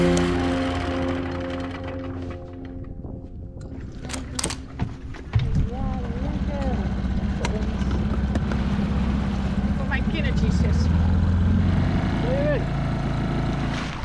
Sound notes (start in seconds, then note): 4.9 footsteps; 5.7 boat engine; 11.8 boat motor